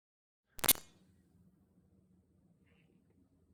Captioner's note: static crackles